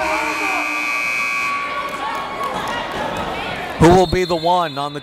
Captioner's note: buzzer blaring